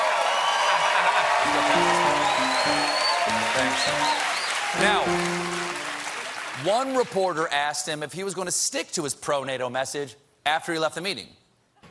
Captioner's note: cheers and applause; piano riff